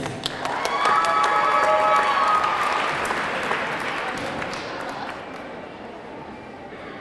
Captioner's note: audience clapping; audience cheering